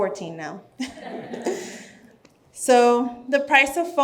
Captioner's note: audience chuckles